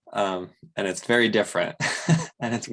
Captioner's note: laughs